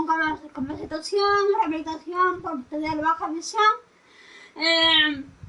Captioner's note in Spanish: voces grabadas